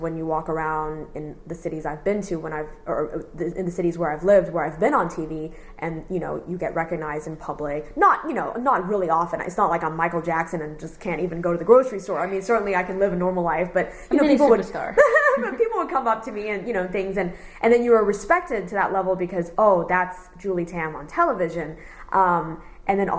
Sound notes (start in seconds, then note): 14.1 laughs